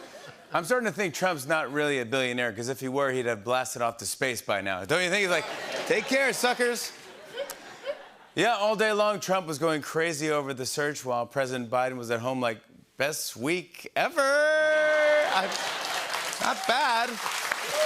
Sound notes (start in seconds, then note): 5.3 laughter; 14.8 laughter and applause